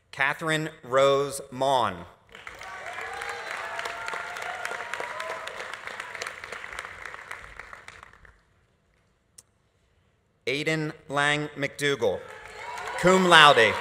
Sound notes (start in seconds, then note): 2.3 audience applauding; 2.4 audience cheering